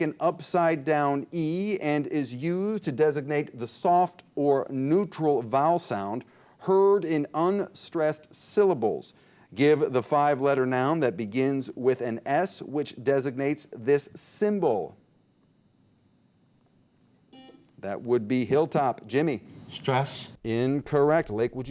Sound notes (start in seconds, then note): 17.3 buzzer beep